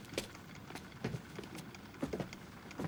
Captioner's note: rhythmic clicking